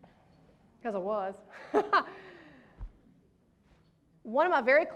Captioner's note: laughs